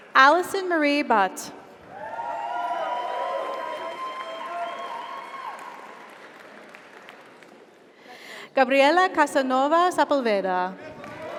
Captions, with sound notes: Alison Marie Butt. (audience applauds) (audience cheers) Gabriela Casanova Sepulveda.